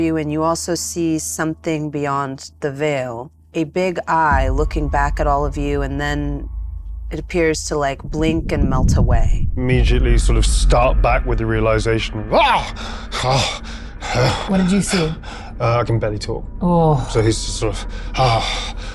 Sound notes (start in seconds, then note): 12.4 yelps